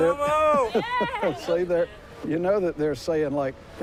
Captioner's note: laughs